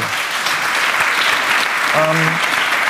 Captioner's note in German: Applaus